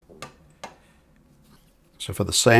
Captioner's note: silence